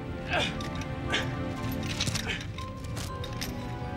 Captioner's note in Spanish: William gruñendo